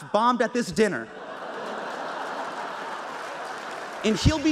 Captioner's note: audience laughter and applause